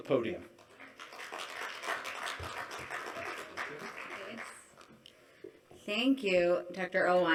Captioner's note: applause